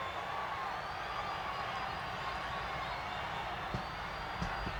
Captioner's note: crowd cheers